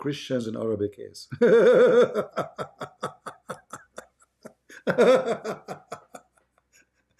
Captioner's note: Ketawa